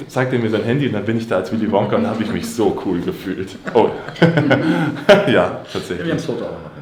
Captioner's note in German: gelächter